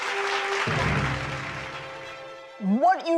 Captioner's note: audience applauding